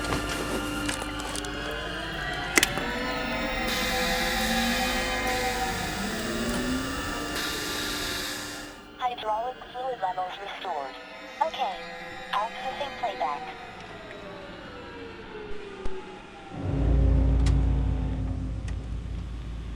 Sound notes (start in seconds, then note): 9.3 automated Voice; 15.7 suspenseful music